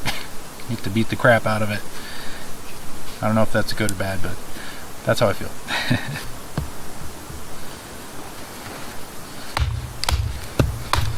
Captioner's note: laughs